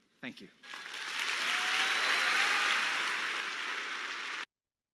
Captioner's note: audience cheering